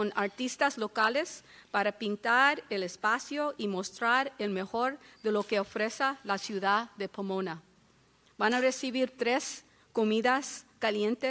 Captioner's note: speaking spanish